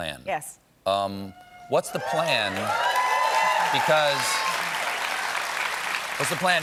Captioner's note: applause